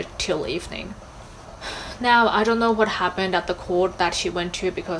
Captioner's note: sighs